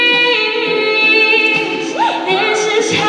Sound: audience cheering

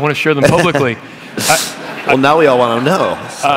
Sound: laughter

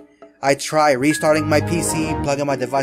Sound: Windows XP shutdown sound

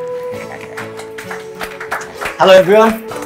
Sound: applause

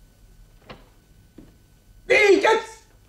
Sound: door opens

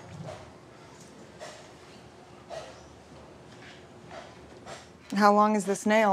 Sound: sound of Hammer In The Distance

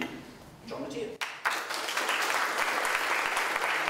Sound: applause

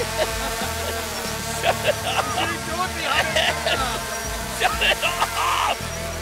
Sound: laughing

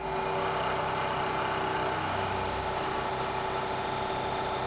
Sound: grinding

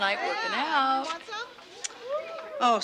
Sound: women cheering

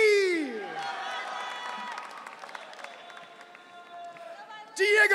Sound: audience cheering

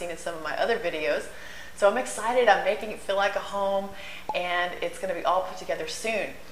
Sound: pop

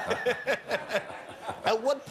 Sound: laughter

